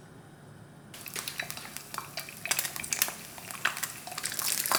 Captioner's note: egg sizzling